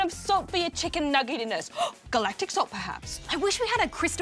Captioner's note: gasps